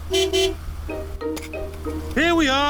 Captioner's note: honks horn